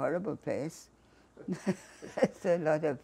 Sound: laughing

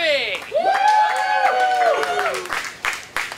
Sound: cheering

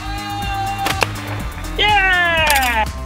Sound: slingshot firing

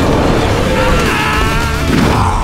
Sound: screaming

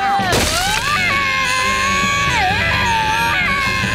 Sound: both screaming

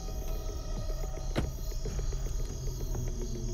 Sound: door thuds

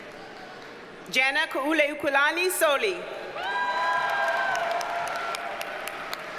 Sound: audience cheers and applauds

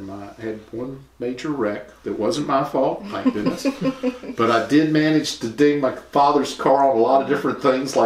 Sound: laughter

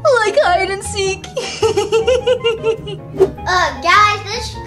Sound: laughing

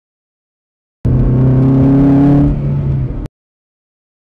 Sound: engine accelerating

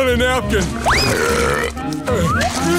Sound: burping

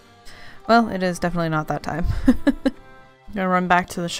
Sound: laughs

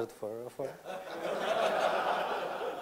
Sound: laughter

